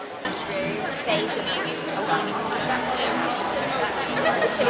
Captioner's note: people shopping